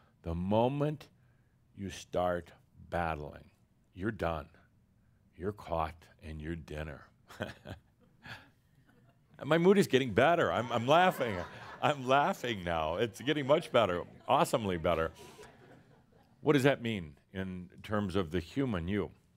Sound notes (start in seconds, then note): 10.6 some laughter